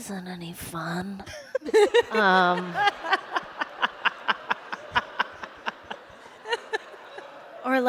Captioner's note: laughter